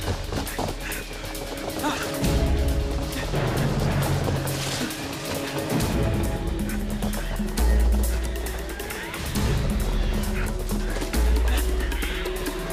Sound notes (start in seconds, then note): 2.3 dramatic suspenseful music; 2.3 men panting; 12.3 creatures screeching; 12.3 dramatic suspenseful music